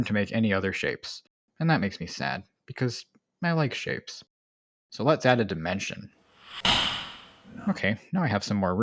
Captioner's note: click